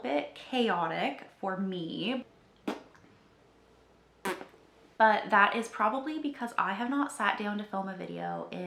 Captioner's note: cuts to blowing raspberries